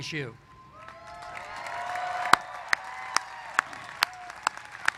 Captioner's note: applause